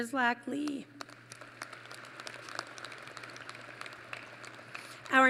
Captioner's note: applause